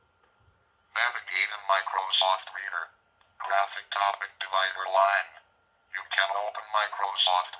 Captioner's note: Microsoft Sam voice